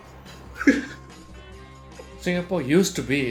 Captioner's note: laughs